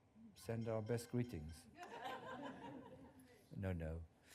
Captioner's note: laughter